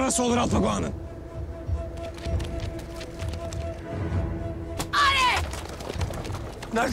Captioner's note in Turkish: Takırtı Sesleri